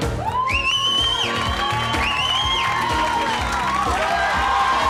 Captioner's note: audience cheers